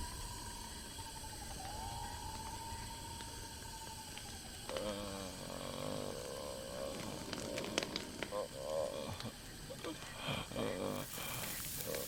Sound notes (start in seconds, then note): 0.3 Dschungellaute; 3.2 Stöhnt; 7.7 Vogellaute